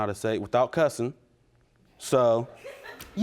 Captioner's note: audience members laughs